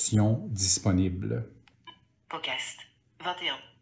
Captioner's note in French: l'appareil émet un bip; Voix de synthèse